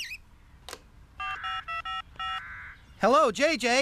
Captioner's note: phone Buttons Beep